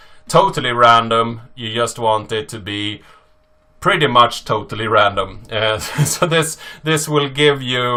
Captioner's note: laughs